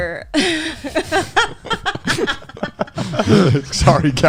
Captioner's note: laughing